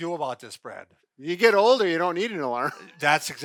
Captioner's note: laughs